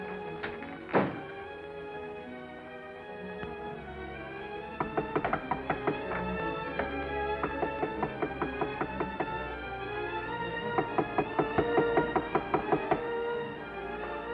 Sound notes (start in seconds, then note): 4.8 persistent knocking on front door